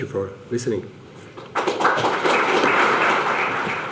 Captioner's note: audience applause